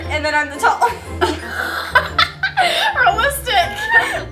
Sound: laughing

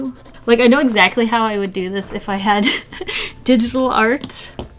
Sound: laughs

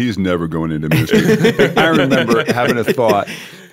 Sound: laughter

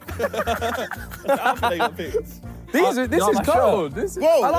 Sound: laughing

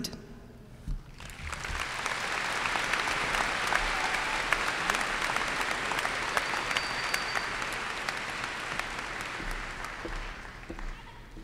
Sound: applause and cheers

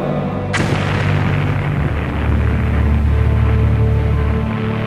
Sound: explosion

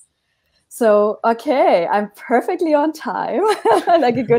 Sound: laughs

